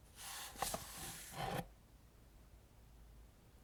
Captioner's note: slides book off shelf